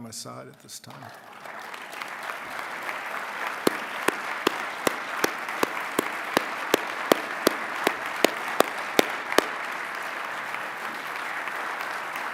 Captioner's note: applause